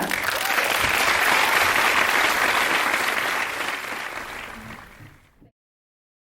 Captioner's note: clapping